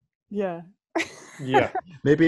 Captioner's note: lacht